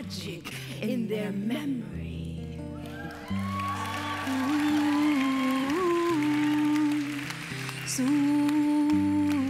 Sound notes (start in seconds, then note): 2.9 applause